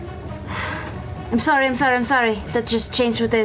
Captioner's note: sighs